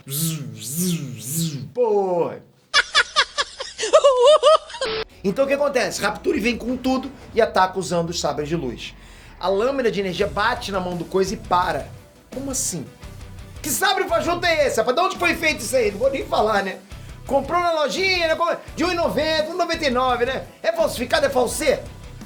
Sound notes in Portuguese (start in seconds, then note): 2.7 risada